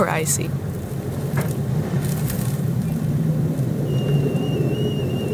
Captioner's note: wind blowing